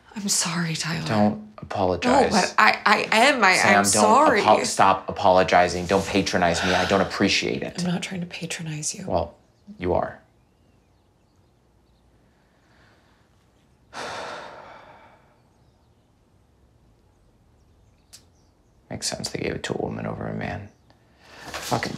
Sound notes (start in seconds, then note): 13.9 Tyler sighs